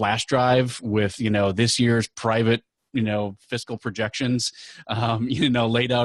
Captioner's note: laughing